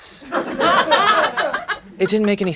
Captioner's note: laughing